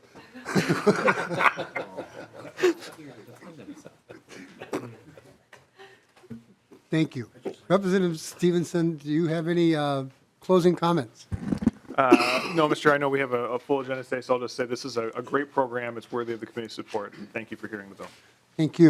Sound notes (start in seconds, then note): 12.0 laughing